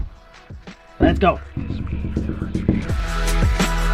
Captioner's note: taps on glass repeatedly; groovy pop music